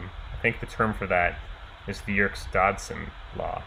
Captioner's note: none